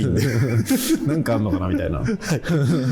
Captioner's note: laughing